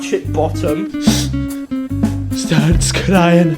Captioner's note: sniff